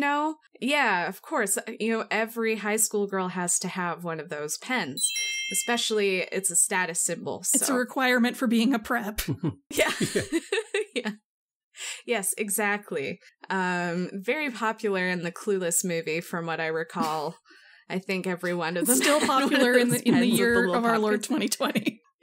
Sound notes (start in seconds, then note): 18.8 laughs